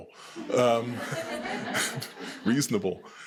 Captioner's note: attendees laughing